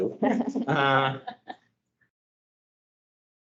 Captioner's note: laughing